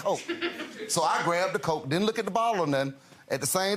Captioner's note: audience giggles